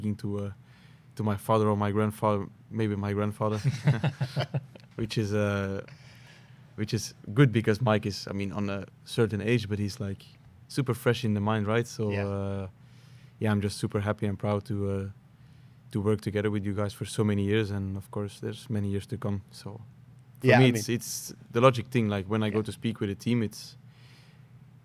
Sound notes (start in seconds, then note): 3.5 laughter